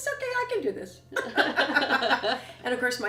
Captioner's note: laughter